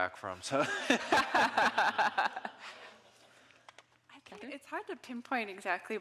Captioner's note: all laughing